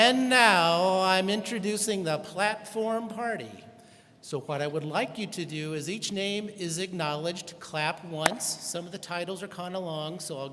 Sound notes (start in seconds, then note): none